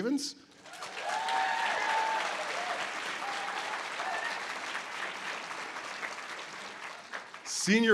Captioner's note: audience applause